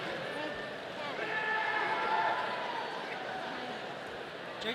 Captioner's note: audience cheering